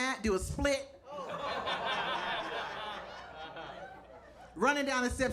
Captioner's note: audience laughing